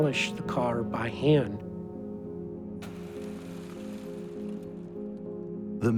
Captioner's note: glass shattering